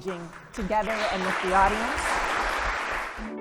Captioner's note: audience applauding